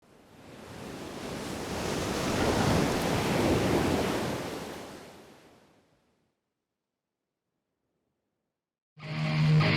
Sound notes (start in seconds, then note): 0.1 waves crashing